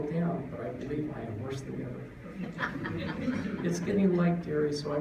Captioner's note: laughter